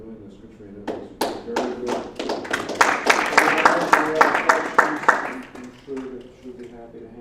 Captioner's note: applause